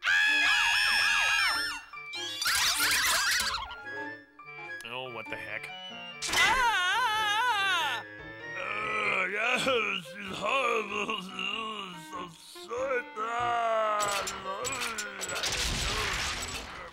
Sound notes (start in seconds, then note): 0.0 screaming; 2.2 squealing; 6.2 shrieking